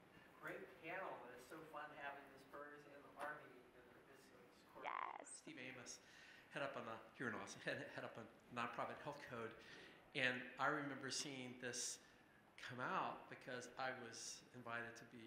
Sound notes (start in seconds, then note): 3.7 speaker talking softly